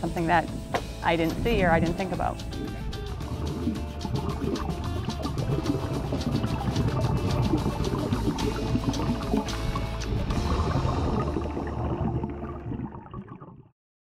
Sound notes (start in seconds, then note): 3.2 water gurgling